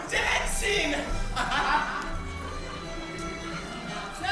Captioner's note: laughs